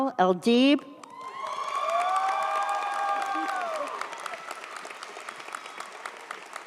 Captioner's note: audience applauds; audience cheers